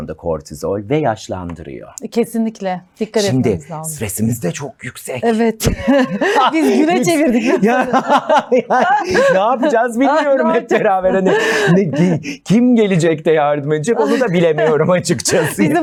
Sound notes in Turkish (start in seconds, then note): 5.6 kahkaha